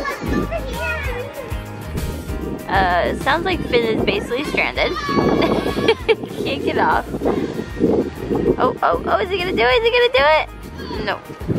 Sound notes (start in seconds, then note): 5.0 laughs